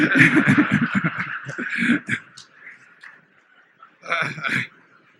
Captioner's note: laughter